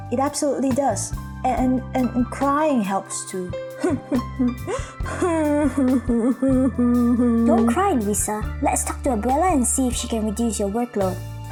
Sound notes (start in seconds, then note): 3.8 Luisa sobs uncontrollably